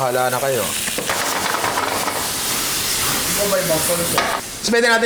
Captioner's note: indistinct chatter